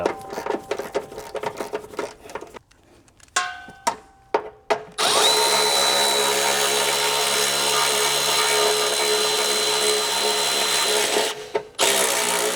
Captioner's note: drilling